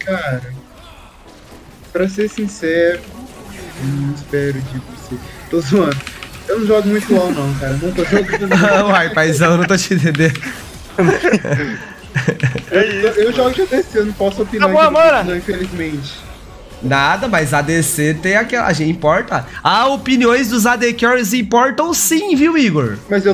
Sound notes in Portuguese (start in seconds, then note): 10.9 risos